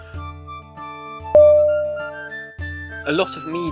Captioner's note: ding!!!